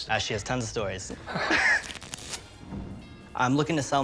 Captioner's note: both laugh